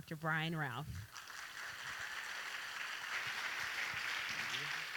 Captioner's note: audience applauding